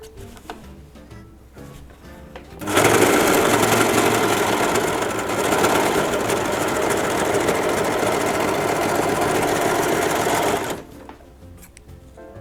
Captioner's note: aggressive overlocker noises